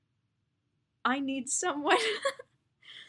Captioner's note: laughs